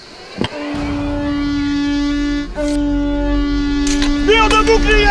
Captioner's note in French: Son de corne